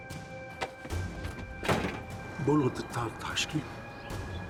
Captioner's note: speaking Slavic language